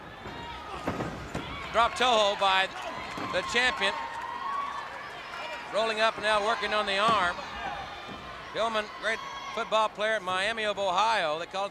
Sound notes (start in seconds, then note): 0.0 body thudding; 0.9 crowd clamoring